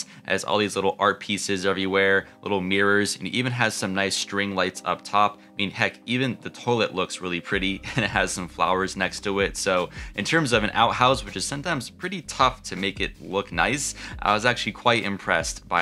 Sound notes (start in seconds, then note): 7.8 chuckles